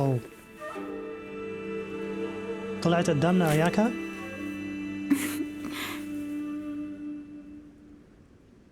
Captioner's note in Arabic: موسيقى لطيفة; ايمي تضحك